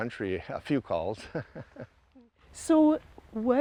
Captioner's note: laughs